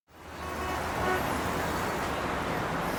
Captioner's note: traffic whooshing; car honking